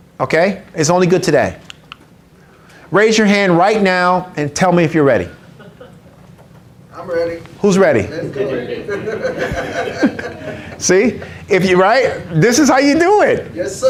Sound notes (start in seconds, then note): 8.7 everyone laughs